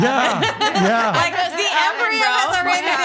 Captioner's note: laughing